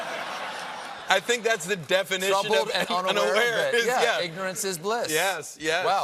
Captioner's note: laughter